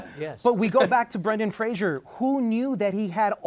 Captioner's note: laughs